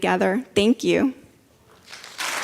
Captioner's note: applause